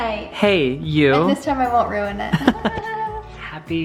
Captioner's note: laughs